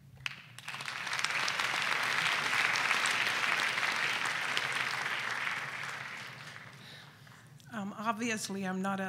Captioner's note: applause